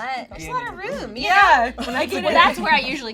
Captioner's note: laughing